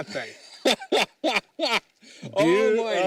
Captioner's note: laughter